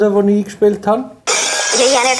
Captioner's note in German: Glas bricht